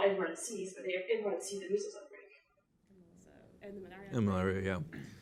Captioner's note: murmur